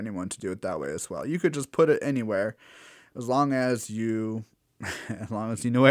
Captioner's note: laugh